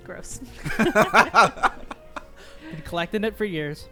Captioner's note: group laughing